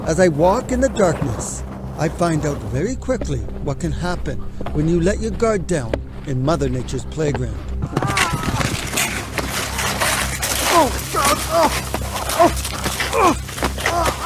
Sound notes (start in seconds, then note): 8.6 gritando; 8.6 gruñendo